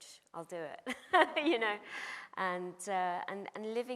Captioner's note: laughs